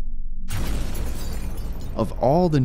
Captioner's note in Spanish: explosiones de bomba